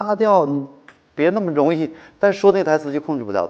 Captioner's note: snot